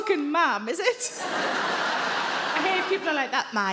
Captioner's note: audience laughing